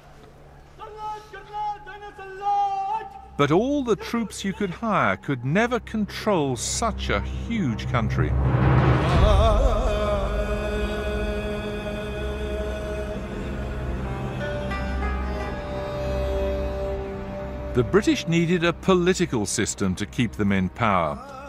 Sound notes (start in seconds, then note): 0.8 officer shouting orders